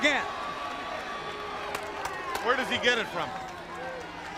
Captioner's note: crowd chatter